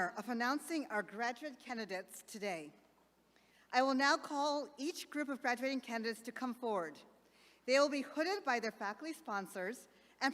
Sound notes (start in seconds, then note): none